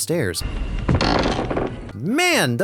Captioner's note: creak